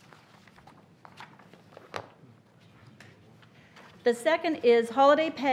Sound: papers shuffling and rustling

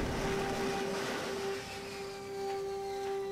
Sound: Batwing powers down

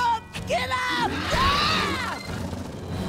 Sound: screaming

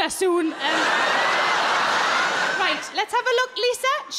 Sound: crowd laugh

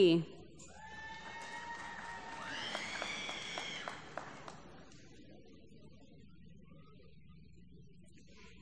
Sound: applause

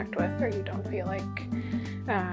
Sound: inhales

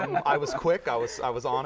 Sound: laughter

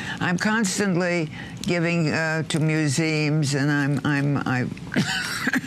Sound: coughing

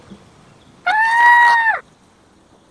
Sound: high-pitched scream

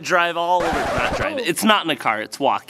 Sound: record scratch

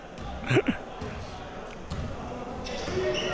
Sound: laughs

